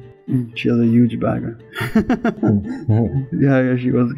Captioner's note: laughter